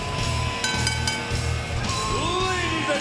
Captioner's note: bell dinging